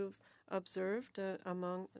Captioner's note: speaking French